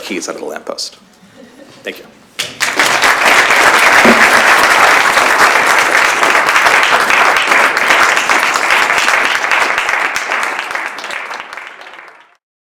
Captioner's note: applause